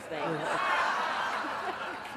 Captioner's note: laughter